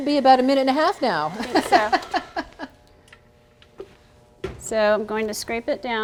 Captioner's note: laughing